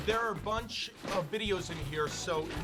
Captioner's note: videotapes rattling